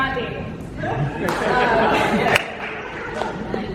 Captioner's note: audience laughing